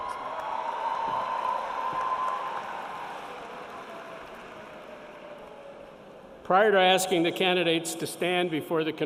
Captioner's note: applause